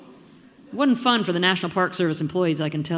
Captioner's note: audience murmuring